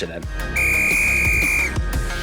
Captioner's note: whistle